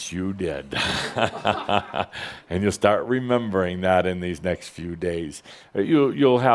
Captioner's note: Adamus chuckles